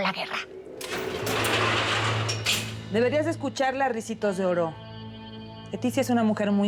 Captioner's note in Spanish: ruido al abrir la reja